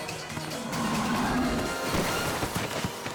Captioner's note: bull growls; matador thuds